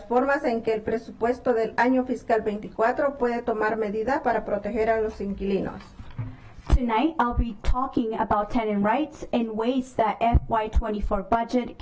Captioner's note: speaking spanish